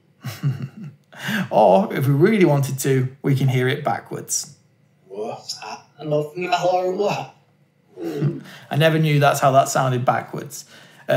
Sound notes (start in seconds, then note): 5.1 backwards audio recording